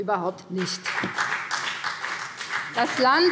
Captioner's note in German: Beifall BÜNDNIS 90/DIE GRÜNEN und vereinzelt CDU